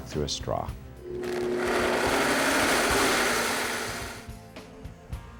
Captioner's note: blender whizzes